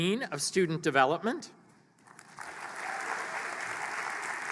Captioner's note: applause